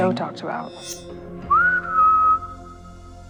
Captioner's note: whistles; suspenseful music